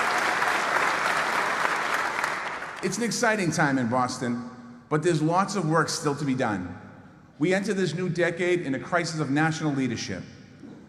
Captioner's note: applause